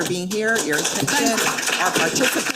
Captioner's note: attendees clapping